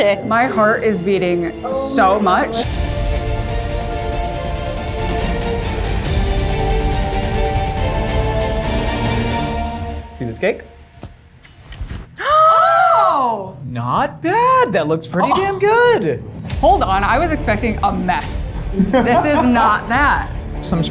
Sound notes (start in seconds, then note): 2.6 dramatic music; 12.1 gasping